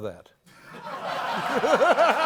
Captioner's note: laughter